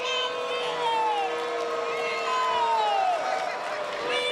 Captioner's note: cheers & boos